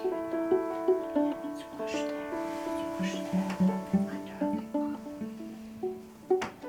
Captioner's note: whispering